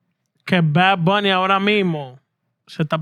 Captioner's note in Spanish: Hablando en idioma extranjero